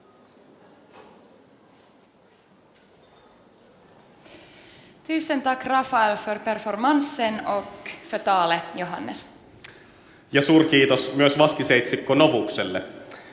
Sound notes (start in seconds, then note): 4.9 speaks Swedish